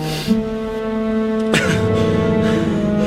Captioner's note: gasping